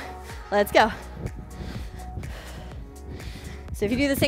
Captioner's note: upbeat music; breathes heavily